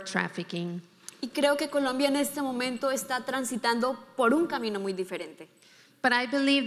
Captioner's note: speaking in foreign language